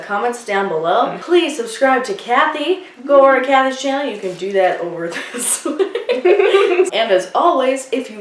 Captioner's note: laughing